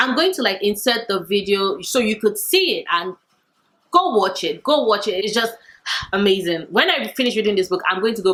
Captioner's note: sigh